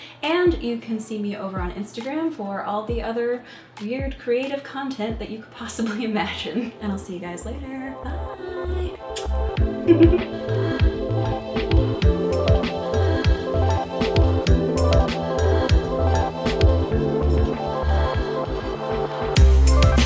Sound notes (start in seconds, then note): 9.8 chuckles; 10.5 upbeat electronic music